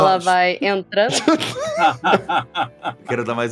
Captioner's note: laughs